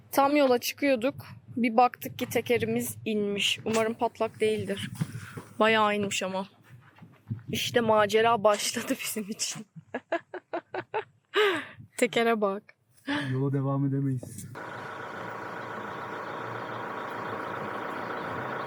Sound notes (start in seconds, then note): 9.8 laughter